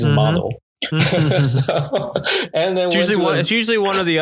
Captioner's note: both laugh